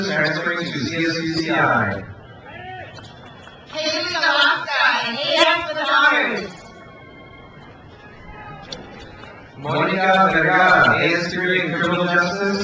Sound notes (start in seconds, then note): 2.4 crowd cheers; 7.1 crowd cheers